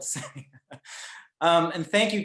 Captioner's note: laughs